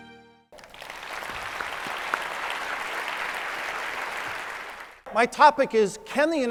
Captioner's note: applause